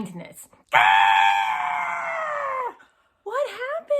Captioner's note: screaming